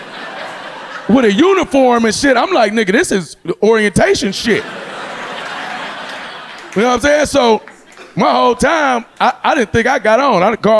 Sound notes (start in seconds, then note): 4.5 audience laughing